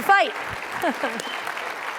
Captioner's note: laughs